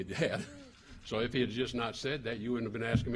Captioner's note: laughter